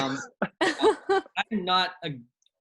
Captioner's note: laughter